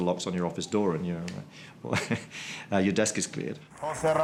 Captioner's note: laughs